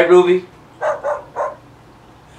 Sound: Ruby barking

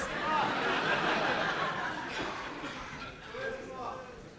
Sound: laughter

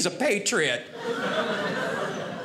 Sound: audience laughing

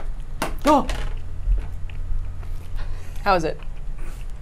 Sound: objects clattering

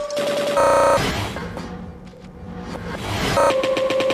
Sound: bang

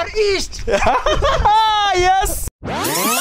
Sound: laughing

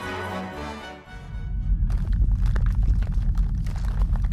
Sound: intense rumbling

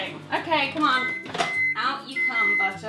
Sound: microwave beeps

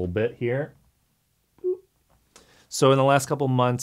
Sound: makes beep noise

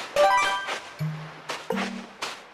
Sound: footsteps

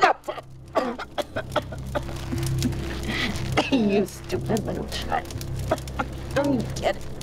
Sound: coughing

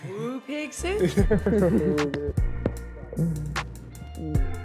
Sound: both laughing

